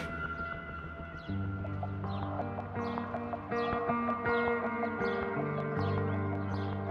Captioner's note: birds chirping; mellow music